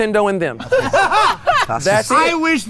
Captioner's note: guys laugh